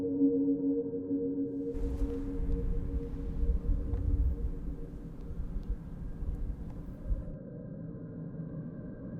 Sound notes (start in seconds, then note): 3.5 wind blows